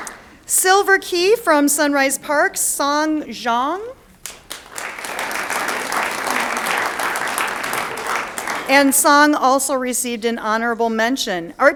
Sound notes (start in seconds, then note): 4.2 audience applauds